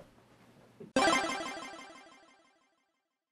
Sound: video game noises

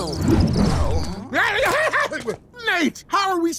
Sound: shrieking

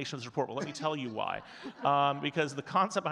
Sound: audience chuckling

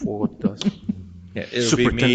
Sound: board member laughing

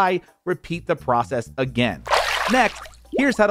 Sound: water burbles

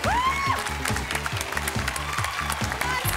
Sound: cheers and applause

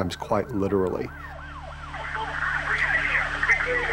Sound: police sirens

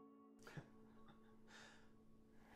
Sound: laughs

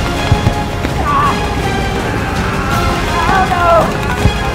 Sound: yelling

